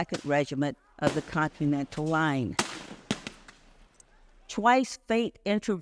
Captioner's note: gunfire banging